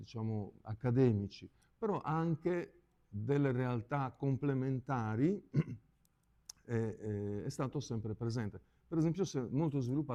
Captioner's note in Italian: schiarire la voce